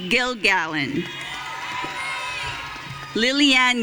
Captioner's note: audience cheering